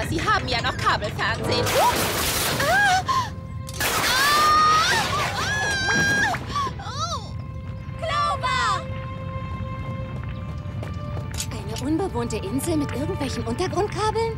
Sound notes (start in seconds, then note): 3.9 screaming